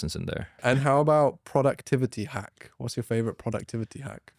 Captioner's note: laughs